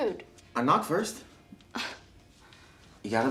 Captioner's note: Tracy sighs